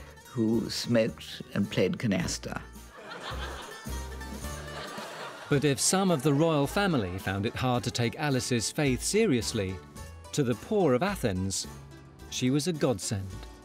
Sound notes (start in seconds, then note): 2.9 people chuckling; 3.1 lighthearted music